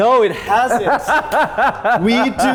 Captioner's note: laughing